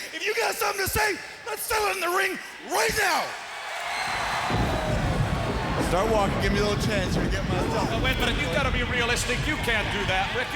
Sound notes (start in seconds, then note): 5.1 crowd cheering